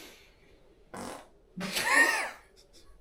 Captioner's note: farts